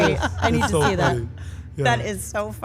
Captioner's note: laugh